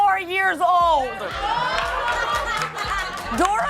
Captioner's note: laughter